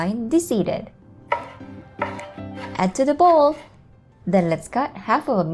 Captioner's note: knife thudding